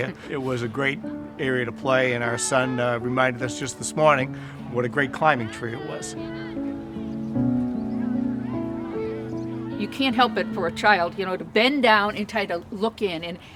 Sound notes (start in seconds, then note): 0.0 laughing; 6.6 children chattering; 6.6 soft piano music